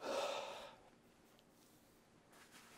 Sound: sighing

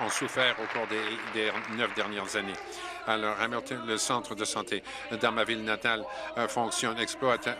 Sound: applause

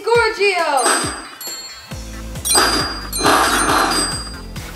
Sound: electronic dings

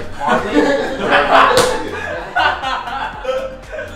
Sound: laughing

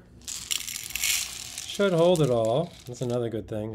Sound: beans rattle

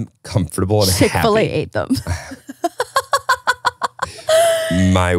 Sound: laughs

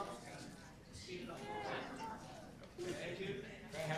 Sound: group chatter

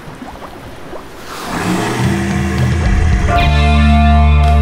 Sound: broccoli kong roars

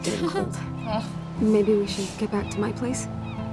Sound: chuckles

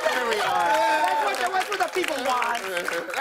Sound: cheers and applause

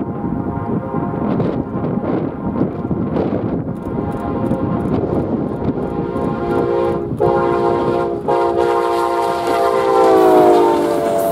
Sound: train

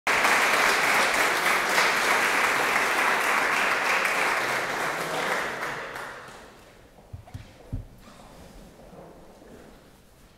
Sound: applause

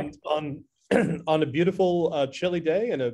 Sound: clears throat

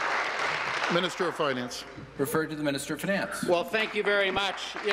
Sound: applause

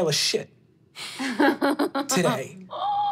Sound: laughing

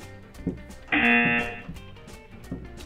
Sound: buzzer rings

